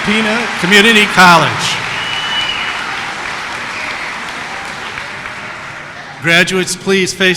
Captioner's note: applause